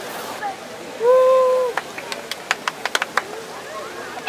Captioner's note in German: Jubelrufe